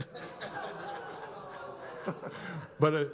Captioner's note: laughs; audience laughs; audience woes